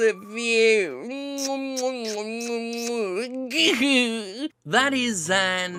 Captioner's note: kissing sounds